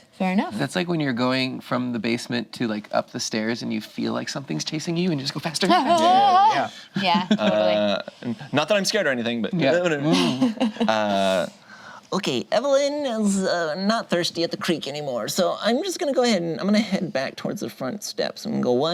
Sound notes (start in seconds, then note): 5.8 wails; 9.6 speaks gibberish; 10.0 laughs